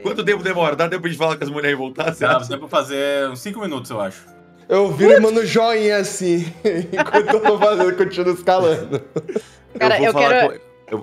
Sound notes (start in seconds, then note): 8.9 laughter